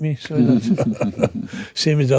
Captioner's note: laughing